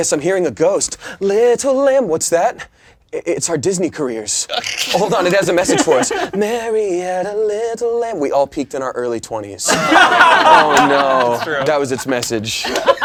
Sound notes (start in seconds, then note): 4.5 laughing; 9.7 laughing